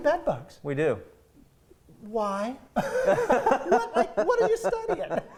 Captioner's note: laughing